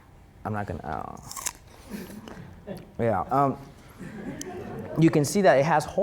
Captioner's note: cranberry crunching